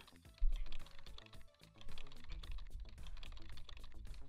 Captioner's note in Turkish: klavye sesi